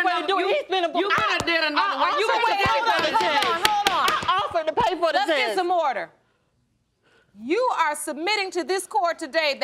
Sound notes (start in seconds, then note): 2.5 gavel pounding